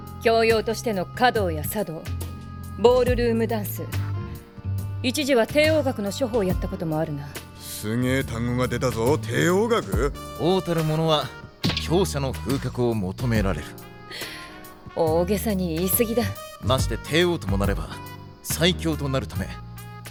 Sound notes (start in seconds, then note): 13.9 laughs